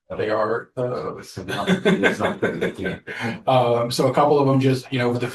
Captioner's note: laughter